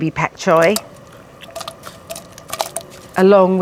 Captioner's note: splattering